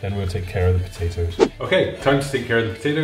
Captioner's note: whooshing